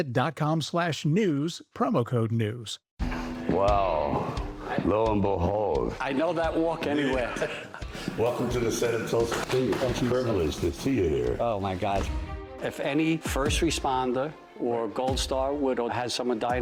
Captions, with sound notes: I know that walk anywhere. (laughter) Welcome to the set of “Tulsa King.” Thank you. Privilege to see you here. Oh my gosh. If any first responder or Gold Star Widow,